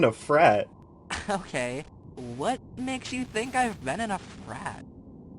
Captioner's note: scoffs